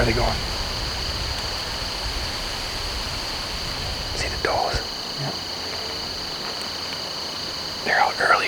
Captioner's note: insects / wind